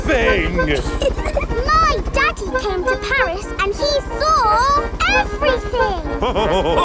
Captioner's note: chuckles; all laughing